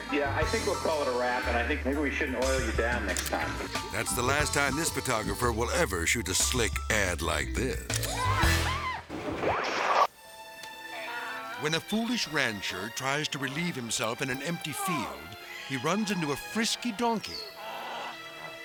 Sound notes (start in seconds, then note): 8.2 model screaming; 9.2 slides swooshing